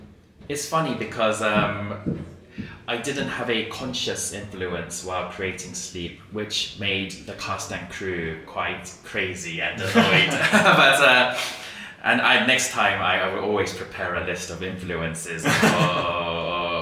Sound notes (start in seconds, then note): 9.8 rires